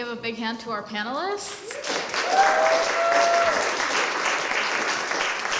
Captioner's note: applause